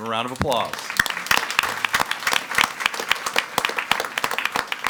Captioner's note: all applauding